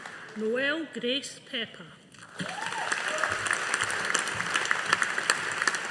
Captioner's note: audience applauding